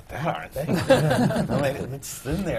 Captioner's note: laughter